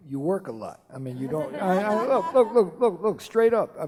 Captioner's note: laughing